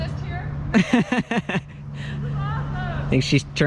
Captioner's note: laughs